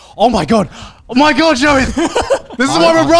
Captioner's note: laughs